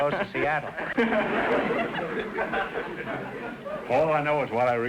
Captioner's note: audience laughter